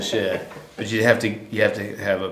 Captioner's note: laughter